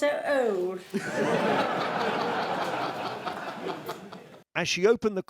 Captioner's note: laughter